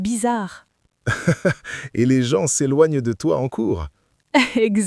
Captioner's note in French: rire; rire